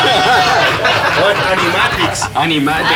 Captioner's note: laughs